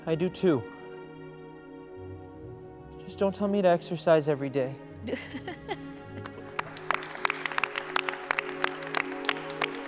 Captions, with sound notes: I do too. Just don't tell me to exercise every day. (chuckles) (people clapping)